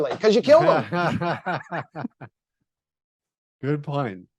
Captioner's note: laughing